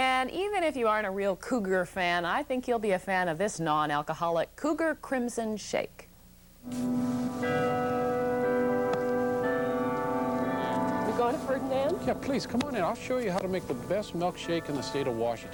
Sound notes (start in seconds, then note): 6.8 bell tolling